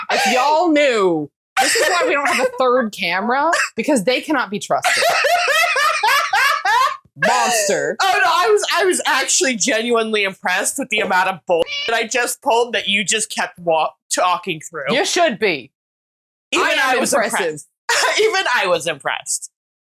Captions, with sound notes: If y'all knew. This is why we don't have the third camera. Because they cannot be trusted. Monster. Oh, no, I was I was actually genuinely impressed with the amount of bull[CAW] I just pulled that you just kept talking through. You should be! I AM IMPRESSIVE. Even I was impressed.